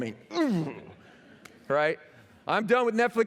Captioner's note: laughter